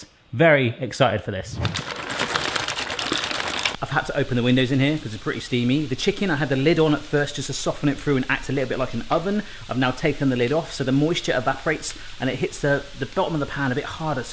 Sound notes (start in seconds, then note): 1.5 splashing water